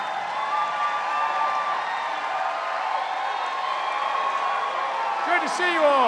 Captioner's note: cheers and applause